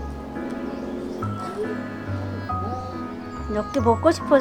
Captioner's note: crying